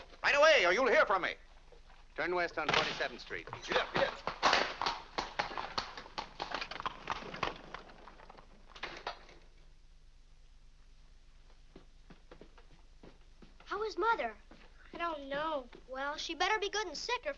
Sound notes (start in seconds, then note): 2.6 door slams; 5.2 hooves trotting